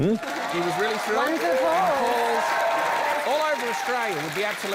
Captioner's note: cheering, applause